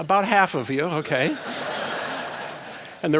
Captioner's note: laughter